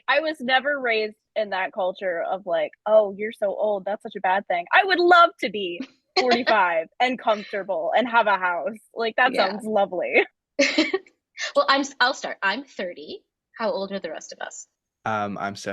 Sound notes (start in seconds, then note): 6.2 laughing; 9.3 laughs